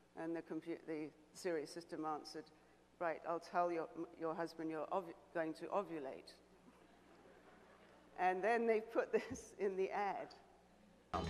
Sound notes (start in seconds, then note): 6.8 audience laughing